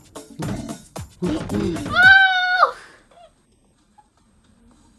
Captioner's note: squeals in pain